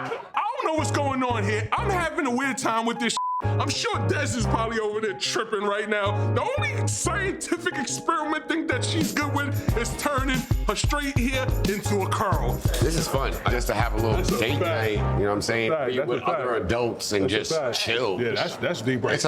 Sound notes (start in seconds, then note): 3.1 beep